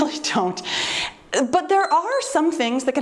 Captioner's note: timer beeps